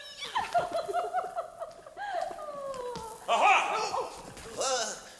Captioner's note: Rosalinde laughs